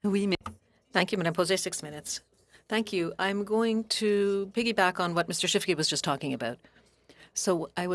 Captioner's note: speaking French